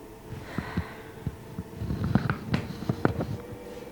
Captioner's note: sighs